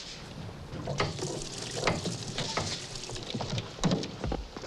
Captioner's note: water splashing